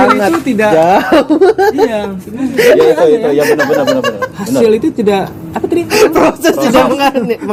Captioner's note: laughs